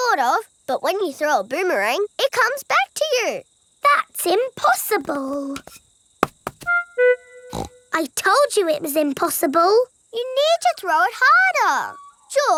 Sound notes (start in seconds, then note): 7.5 snorts